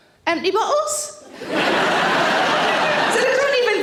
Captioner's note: audience laughing